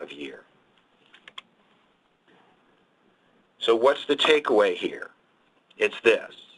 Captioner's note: mouse clicks